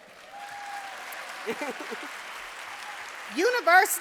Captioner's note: audience applauding